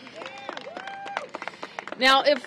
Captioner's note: applause